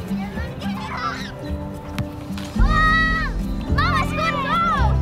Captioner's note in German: Kinderjauchzen